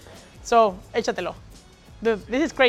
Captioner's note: speaks Spanish